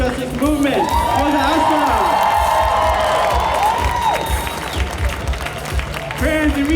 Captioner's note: cheers